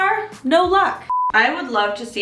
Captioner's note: beep